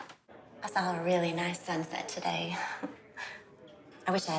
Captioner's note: laughs